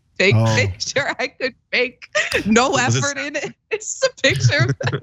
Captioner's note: laugh